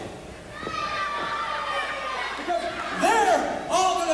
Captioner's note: crowd shouts